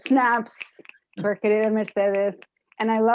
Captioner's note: spanish